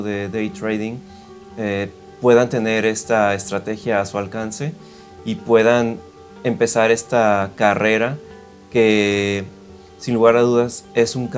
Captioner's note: Spanish